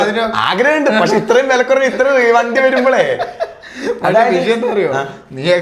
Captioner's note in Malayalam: പൊട്ടിച്ചിരി